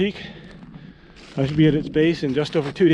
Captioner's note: dry grass crunching